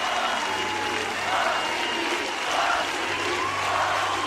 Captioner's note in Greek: χειροκρότημα